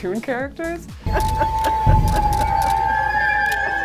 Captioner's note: laughing